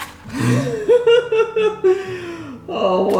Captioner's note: laughing